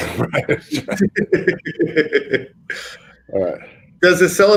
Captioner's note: all laugh